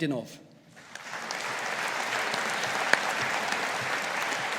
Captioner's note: audience applauding